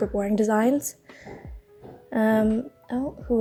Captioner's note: distant footsteps